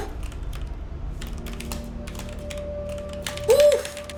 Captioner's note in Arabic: نقر على لوحة المفاتيح